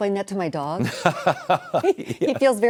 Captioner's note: laughing